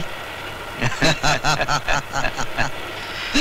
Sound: laughs

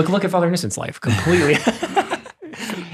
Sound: chuckles

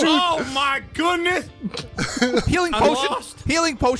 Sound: everyone shouting

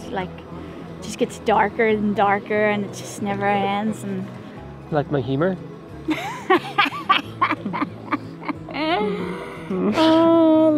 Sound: laughter

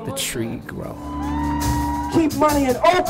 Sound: crowd cheering

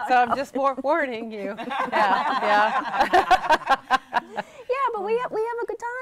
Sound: laughing

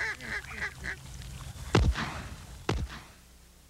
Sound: gunshots

